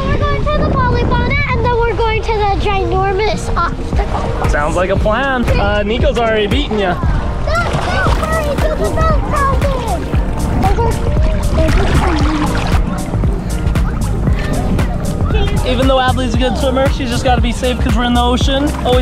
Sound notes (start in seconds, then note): 11.2 upbeat music; 11.2 water splashing